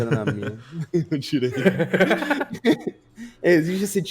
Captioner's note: laughs